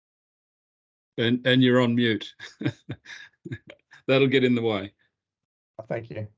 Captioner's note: laughs